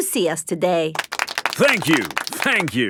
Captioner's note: applauding